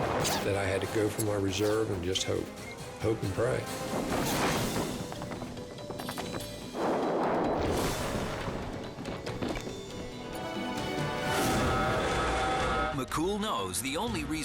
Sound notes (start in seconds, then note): 5.8 air swooshes